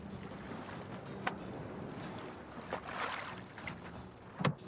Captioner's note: water sloshing